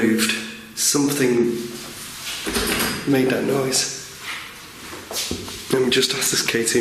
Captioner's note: door handle rattling